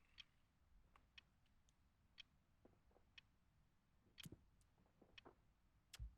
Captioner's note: clock ticking continues